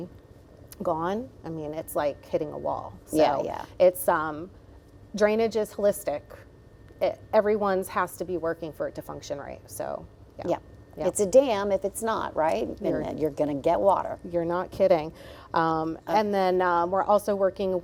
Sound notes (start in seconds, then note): none